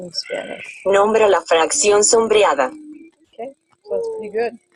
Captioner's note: speaking in foreign language